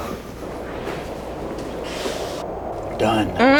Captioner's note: wind whistles